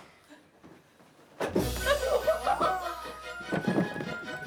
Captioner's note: laughing